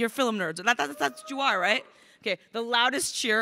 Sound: crowd cheering

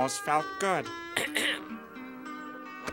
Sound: clearing throat

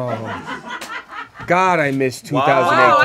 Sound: audience laughs

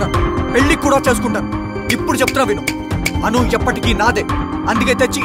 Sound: snaps finger

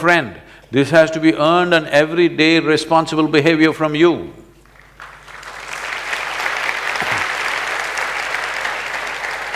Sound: applause

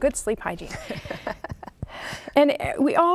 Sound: laughing

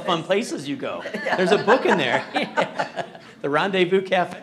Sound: laughing

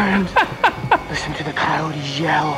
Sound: laughs

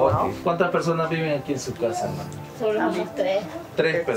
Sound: speaking foreign language

